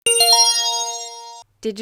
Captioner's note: chime